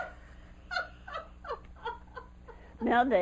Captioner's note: laughter